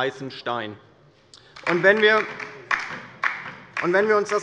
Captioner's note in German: Beifall bei der LINKEN